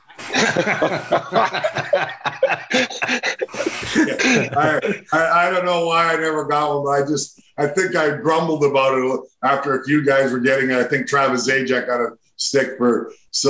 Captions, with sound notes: (group laughing) - I, I don't know why I never got one, but I just, I think I grumbled about it after a few guys were getting it. I think Travis Zajac got a stick for